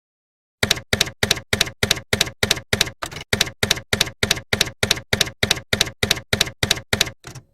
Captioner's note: typewriter keys clacking